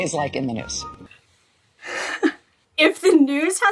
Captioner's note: chuckling